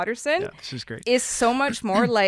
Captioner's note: chuckles